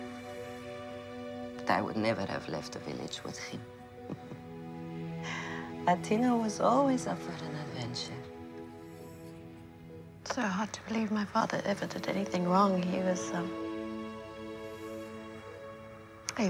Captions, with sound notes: But I would never have left the village with him, [Chuckles] Athena was always up for an adventure. Its so hard to believe my father ever did anything wrong he was--